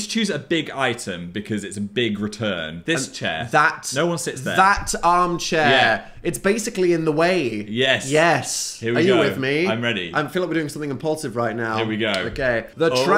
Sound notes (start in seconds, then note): none